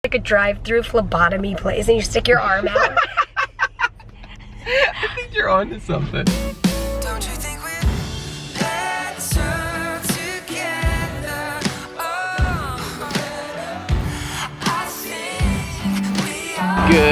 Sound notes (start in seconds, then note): 2.7 laughing